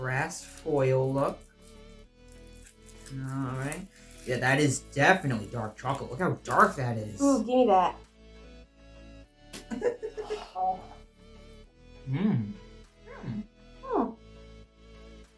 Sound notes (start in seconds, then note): 9.6 laughing